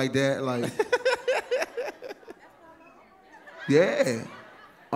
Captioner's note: laughs